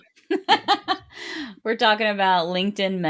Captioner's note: laughs